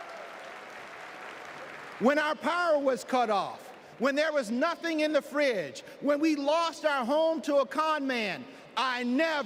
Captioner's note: applause